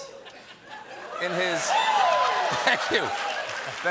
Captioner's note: applause